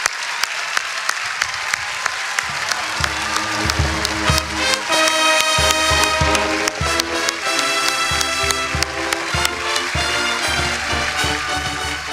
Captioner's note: cheering and applause; band music playing